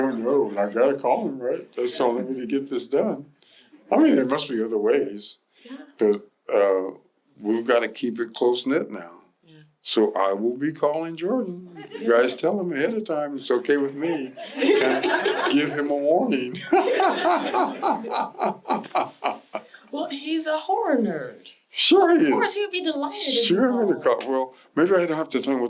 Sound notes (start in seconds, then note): 16.5 laughter